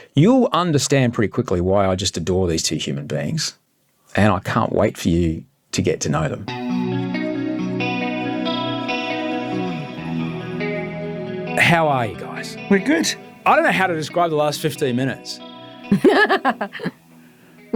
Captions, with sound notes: You'll understand pretty quickly why I just adore these two human beings, and I can't wait for you to get to know them. (upbeat music) How are you guys? - We're good. - I don't know how to describe the last 15 minutes. (laughing)